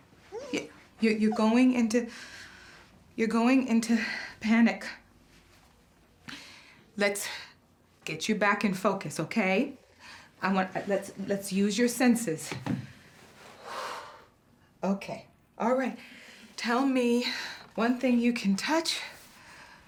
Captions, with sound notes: [ragged breathing] Yeah. You-- you're going into... you're going into panic. Let's... get you back in focus, okay? I want-- Let's use your senses. [exhales] Okay. All right. Tell me one thing you can touch.